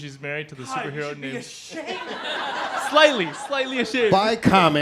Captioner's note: laughing